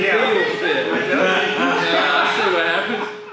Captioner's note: laughs loudly